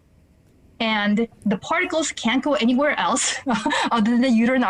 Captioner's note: laughing